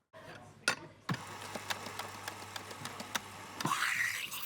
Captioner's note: grinder whirrs; steam hisses, gurgles